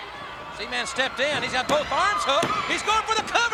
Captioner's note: crowd clamoring; body thudding; hands thudding